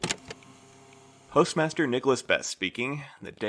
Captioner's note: tape recorder clicks on